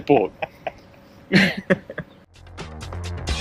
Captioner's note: laughs; upbeat music